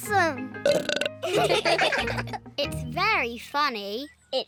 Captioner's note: burps; all laugh